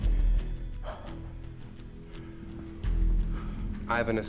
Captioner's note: crying